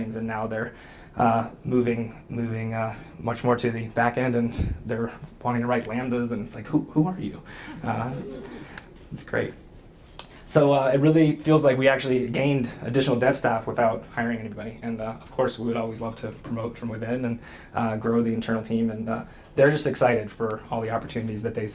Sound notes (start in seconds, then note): 7.8 audience laughs